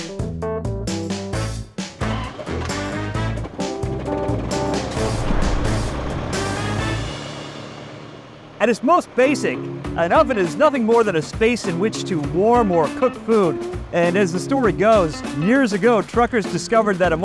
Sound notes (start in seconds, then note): 0.0 jazzy music; 1.2 engine revs